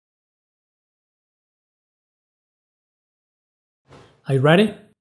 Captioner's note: pause